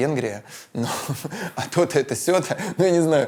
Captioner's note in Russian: смеется